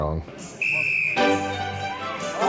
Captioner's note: whistle blows; music and crowd cheering